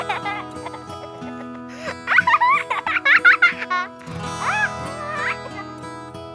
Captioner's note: laughs